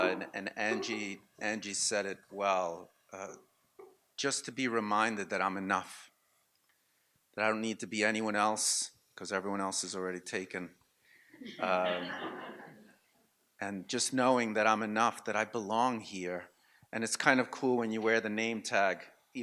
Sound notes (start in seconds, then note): 11.5 audience laughs